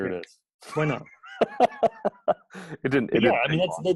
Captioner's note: laughs